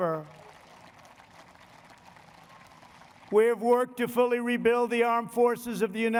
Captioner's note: applause